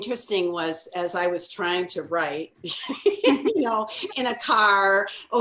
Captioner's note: laughs